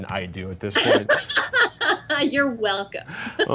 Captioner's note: laughter